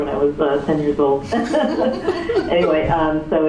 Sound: laughter

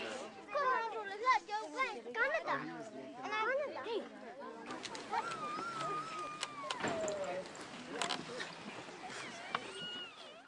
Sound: crowd noises

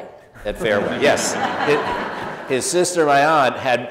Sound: audience laughs

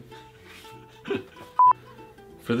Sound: laughs; beep

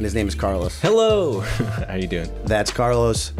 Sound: chuckle

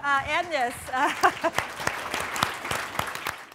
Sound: audience applauding

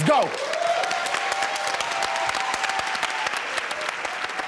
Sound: cheering

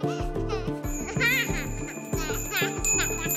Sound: laughs

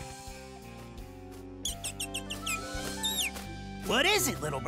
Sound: tweeting

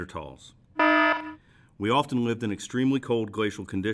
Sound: warning alarm sounds

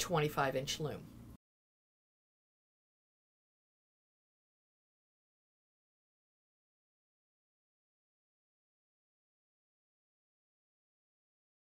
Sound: no Sound Present

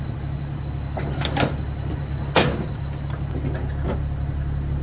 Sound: machine engine rumbling

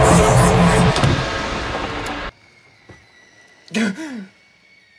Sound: filmer exhales

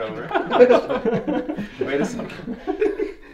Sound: laughter

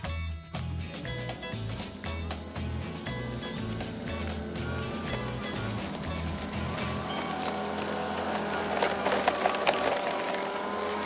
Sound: lawnmower sound

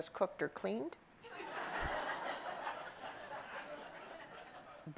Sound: audience laughs

